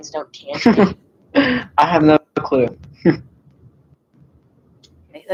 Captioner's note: laughs